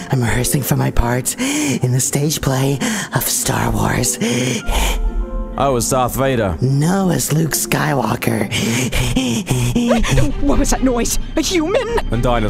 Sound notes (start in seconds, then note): 2.8 breath; 8.5 breathing